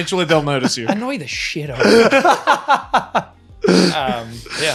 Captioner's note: laughing